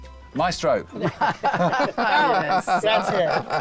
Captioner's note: all laugh